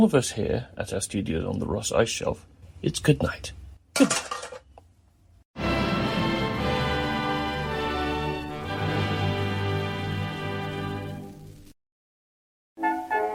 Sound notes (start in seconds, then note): 4.0 clang